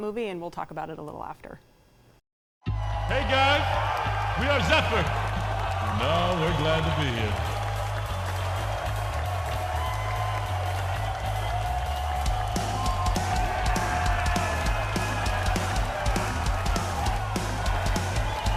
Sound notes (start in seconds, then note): 8.5 audience cheering; 12.1 lively rock music